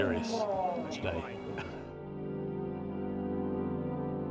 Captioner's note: laughs